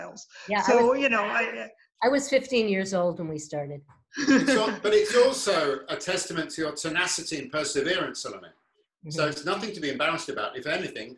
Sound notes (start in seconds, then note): 4.2 laughter